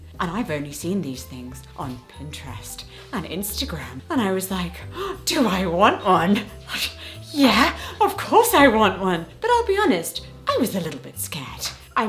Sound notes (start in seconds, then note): 4.8 gasping; 6.4 scoffing